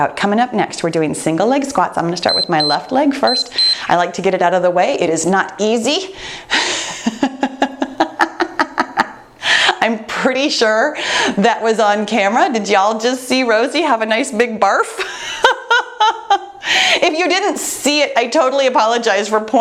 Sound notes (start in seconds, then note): 2.2 timer beeps; 6.7 laughing